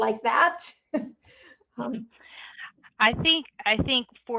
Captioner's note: laughs